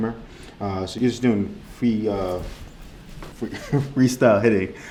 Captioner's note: laughs